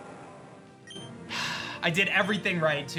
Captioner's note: scoffs